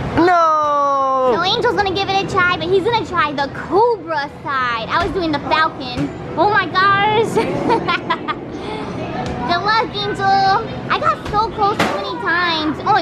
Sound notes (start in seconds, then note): 7.3 laughing